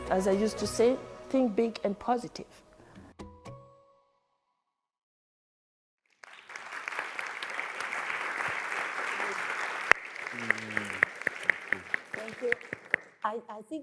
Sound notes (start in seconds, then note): 6.1 audience applauds